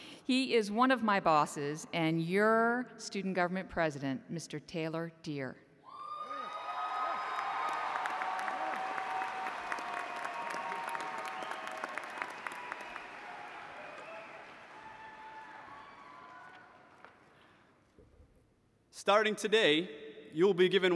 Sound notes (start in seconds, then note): 9.1 cheers and applause